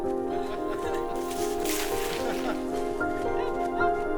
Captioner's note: Matt and woman laughing